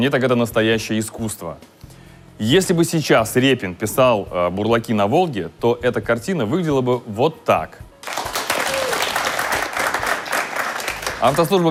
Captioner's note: applause